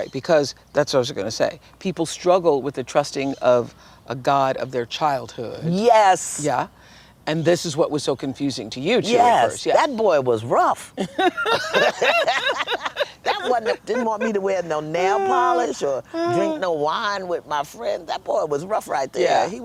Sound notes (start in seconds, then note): 10.9 laughter